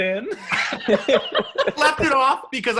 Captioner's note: laughing